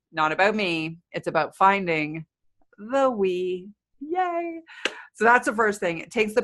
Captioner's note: clapping